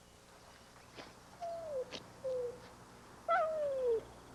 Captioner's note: whimpering